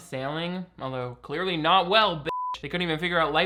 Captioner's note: beep